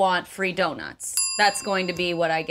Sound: ding sound

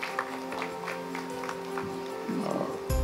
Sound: applause

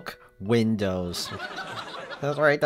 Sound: laugh track

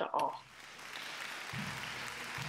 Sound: audience cheers and applauds; jubilant bagpipe music

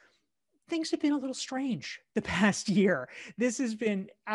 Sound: chuckles

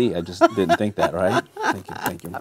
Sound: laughing

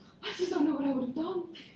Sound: laughter

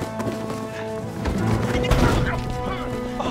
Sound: crash

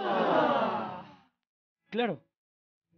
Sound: sad audience sound

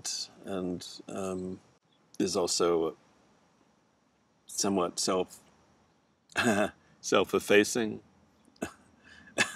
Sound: chuckles; chuckles

